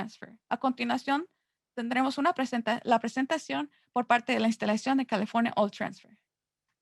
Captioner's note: Spanish